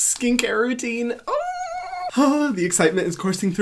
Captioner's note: excited squeal